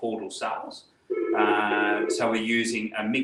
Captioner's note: phone rings